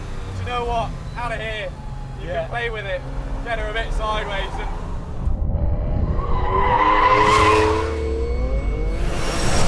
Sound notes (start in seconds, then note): 5.9 brakes squeal